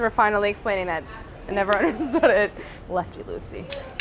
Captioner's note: laughs